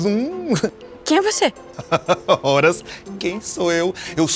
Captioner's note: man laughs